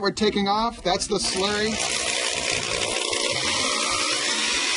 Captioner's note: drill whirring